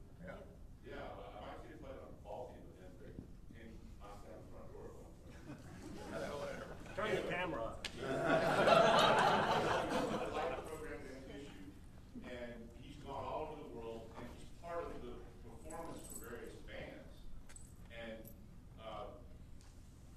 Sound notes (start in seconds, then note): 5.3 audience chuckling; 8.0 audience laughing